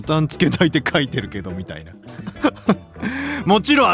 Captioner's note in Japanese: 笑い